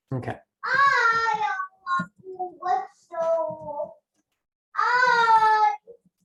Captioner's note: toddler speaks gibberish